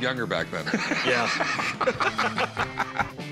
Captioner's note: laughter